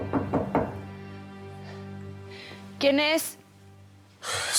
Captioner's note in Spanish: toques en la puerta